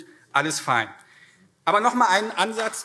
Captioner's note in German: Vereinzelter Beifall CDU und SPD